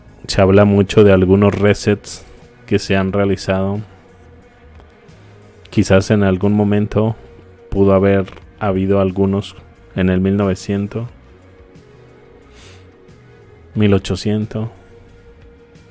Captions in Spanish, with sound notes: Se habla mucho de algunos resets que se han realizado. Quizás en algún momento pudo haber habido algunos en el 1900, [resoplido] 1800.